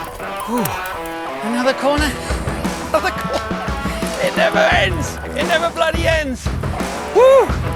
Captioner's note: laughs